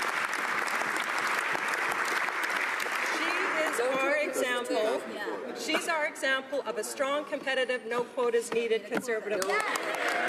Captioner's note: applause